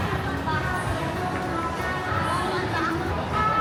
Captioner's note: crowd chattering